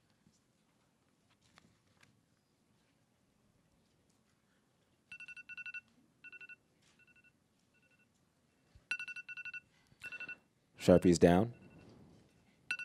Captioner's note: timer going off